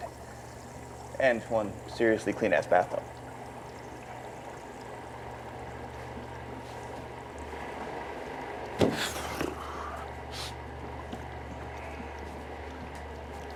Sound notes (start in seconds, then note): 6.4 vent whirring